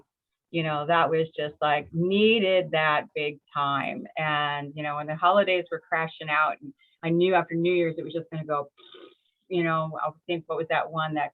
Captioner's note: raspberry